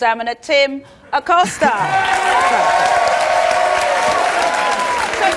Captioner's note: audience applauds